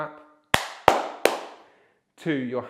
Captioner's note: clapping